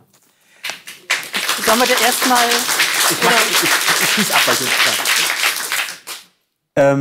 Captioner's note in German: Applaus